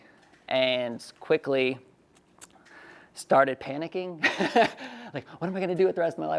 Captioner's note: laughs